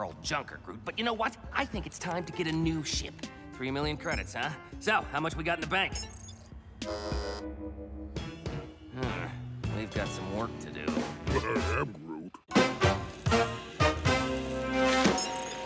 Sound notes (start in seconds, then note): 11.3 chuckles